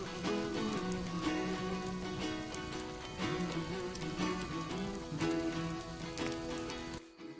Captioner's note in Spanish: Chisporroteos